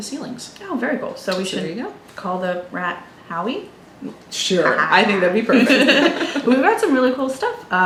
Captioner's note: everyone chuckles